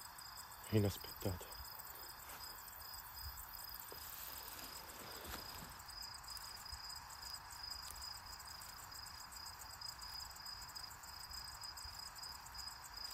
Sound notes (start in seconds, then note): none